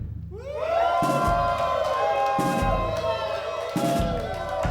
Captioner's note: cheering; applause